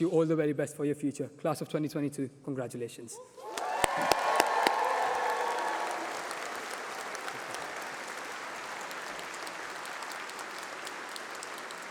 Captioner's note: applause